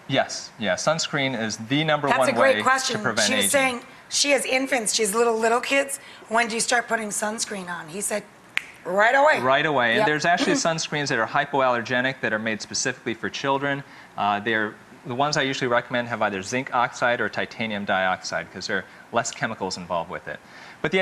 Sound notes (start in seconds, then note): 8.5 snaps